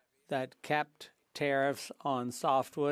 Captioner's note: speaking French